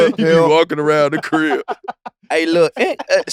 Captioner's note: laugh